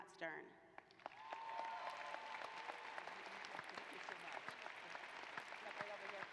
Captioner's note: applause